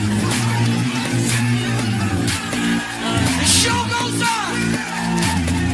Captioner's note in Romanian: Aplauze